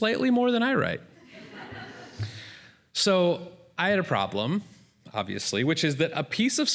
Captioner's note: laughter